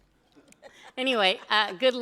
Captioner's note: laughs